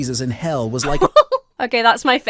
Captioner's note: laughs